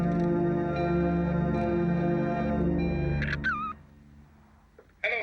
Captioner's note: answering machine beeping